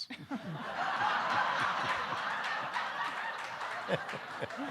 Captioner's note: audience laughing